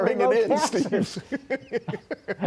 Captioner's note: laughter